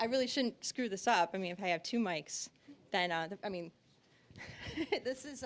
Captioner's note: laughing